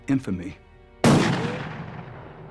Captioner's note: gunshot